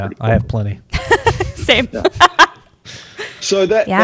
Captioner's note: laughs